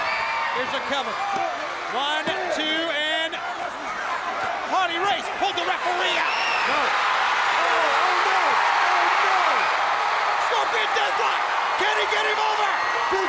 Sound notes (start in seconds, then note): 7.4 crowd cheering